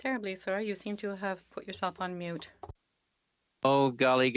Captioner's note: speaking French